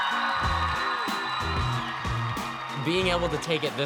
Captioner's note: crowd roars